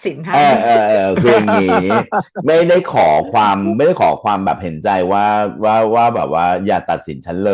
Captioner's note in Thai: เสียงหัวเราะ